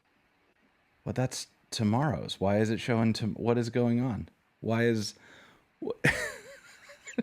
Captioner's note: laughing